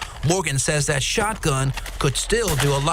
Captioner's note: gunshots